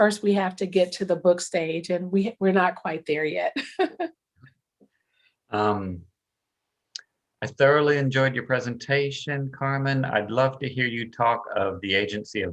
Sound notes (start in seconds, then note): 3.6 chuckles